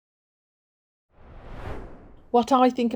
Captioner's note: screen swooshing